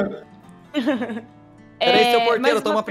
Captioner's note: laughs